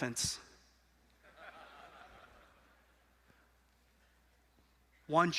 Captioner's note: audience laughing